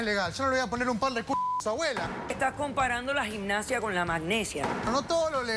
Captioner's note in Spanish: Bip